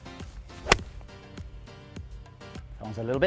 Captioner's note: golf ball hits